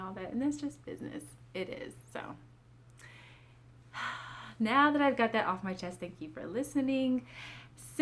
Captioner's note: sigh